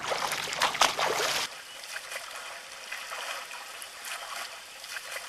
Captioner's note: water splashing